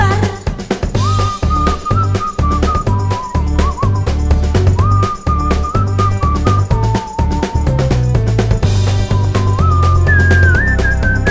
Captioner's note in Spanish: Silbidos